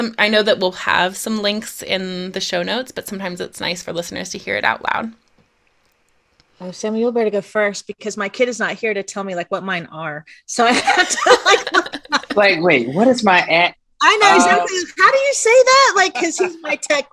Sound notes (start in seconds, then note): 10.7 laughing